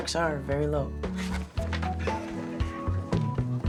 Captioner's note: chuckles